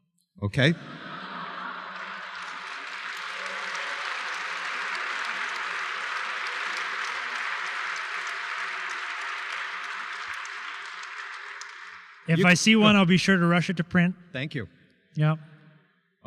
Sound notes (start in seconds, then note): 7.7 applause